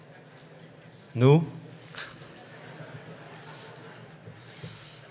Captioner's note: laughter